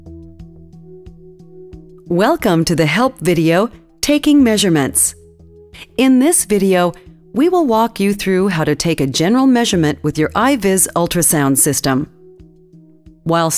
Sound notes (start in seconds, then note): 2.3 voiceover